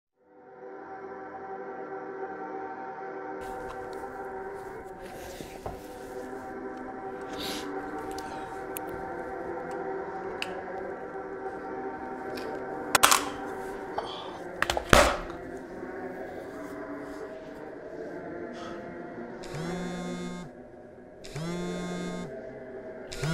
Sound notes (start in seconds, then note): 0.2 gentle suspenseful music; 13.8 sighs; 19.5 cell phone buzzing